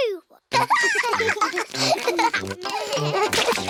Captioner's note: both giggling